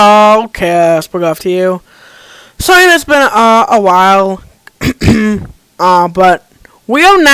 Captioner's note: cough Cough